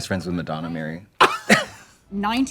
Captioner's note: both laugh